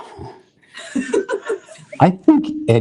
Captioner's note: laughter